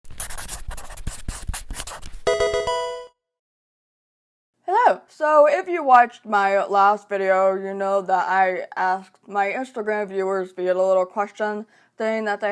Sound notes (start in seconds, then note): 0.0 marker scratching; 2.2 electronic video game chime